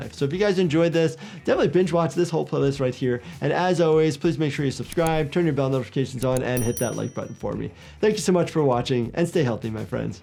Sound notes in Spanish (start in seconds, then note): 6.2 suena la campana